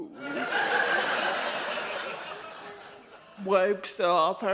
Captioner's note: audience laughs